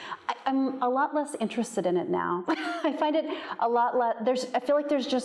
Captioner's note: chuckles